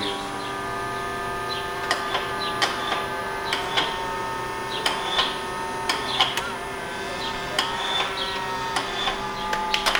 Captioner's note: sound of robot moving; clapping